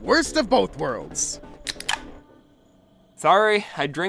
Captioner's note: soda can opens